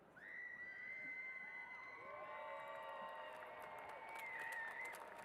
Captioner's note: cheers and applause